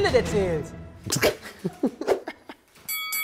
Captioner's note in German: Lachen